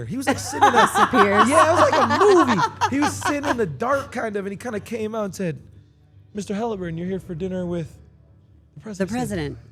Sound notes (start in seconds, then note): 0.2 laugh